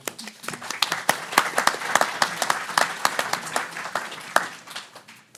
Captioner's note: everyone applauding